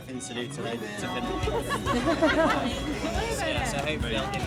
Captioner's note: laughter